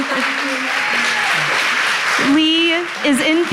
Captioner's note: audience applauds